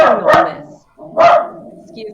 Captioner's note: dog barking